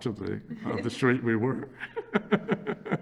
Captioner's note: laughs